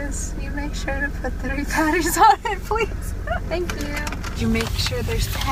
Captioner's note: laughs